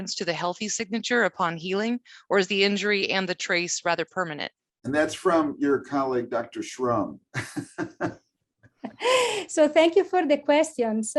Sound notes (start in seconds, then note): 7.3 laughs